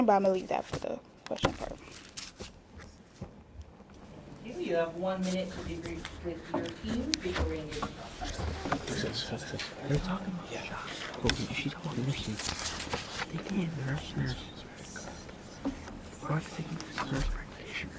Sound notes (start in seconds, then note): 7.5 host chatters; 9.3 students whisper; 14.9 students whisper